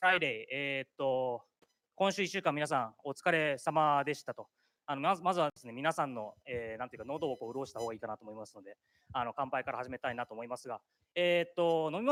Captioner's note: speaking japanese